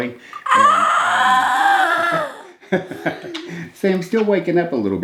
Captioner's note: whines